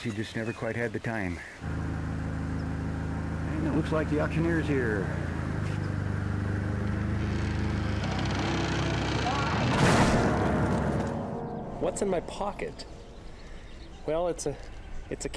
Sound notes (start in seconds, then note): 5.5 creaking; 9.3 crash